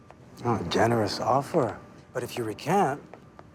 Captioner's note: none